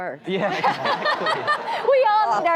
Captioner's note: laughter